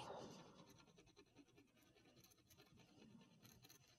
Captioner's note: scratching